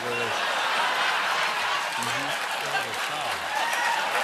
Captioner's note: laughter